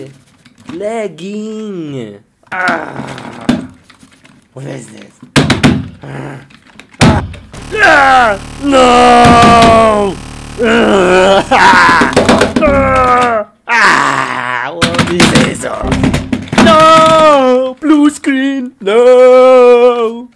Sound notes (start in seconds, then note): 2.6 grunts; 6.0 grunts; 10.5 cries; 10.5 grunts; 10.5 screams